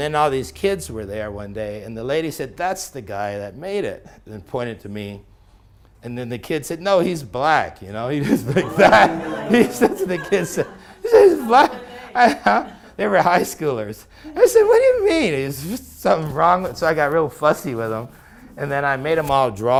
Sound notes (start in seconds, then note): 10.8 gasp